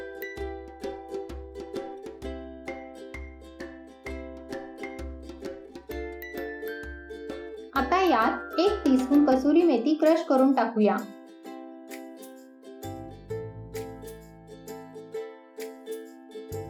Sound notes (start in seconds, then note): 7.8 crushed